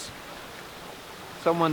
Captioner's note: water gushing